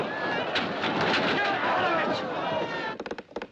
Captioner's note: Grita